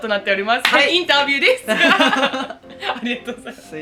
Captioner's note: laughs